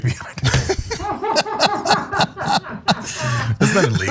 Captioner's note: laugh